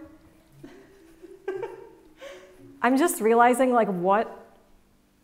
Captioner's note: chuckles